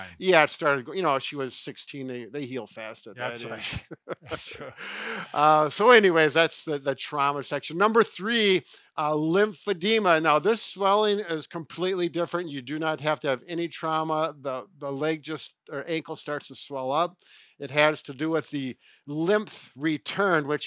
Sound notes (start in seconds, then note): 3.4 laughter